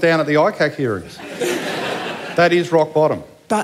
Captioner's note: laughter